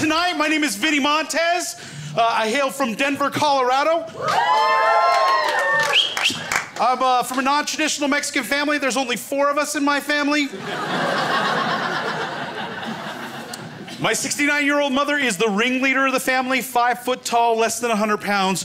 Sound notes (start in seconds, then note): 4.1 crowd cheering; 5.8 whistle; 10.5 crowd laughs